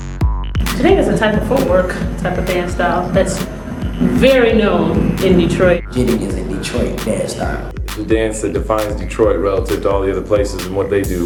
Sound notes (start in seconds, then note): 5.8 voiceover